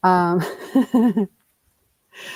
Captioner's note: chuckles